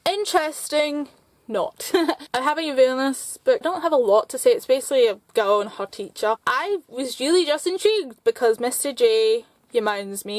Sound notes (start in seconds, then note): 1.8 laughter